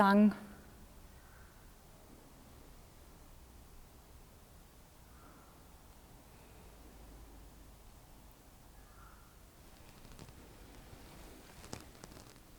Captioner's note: silence in the background